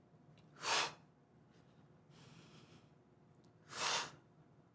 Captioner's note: Tara whooshing air